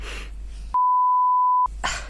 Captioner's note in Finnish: piippaus